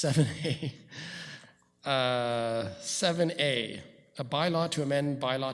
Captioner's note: chuckles